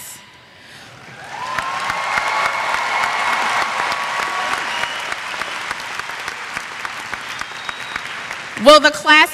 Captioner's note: applause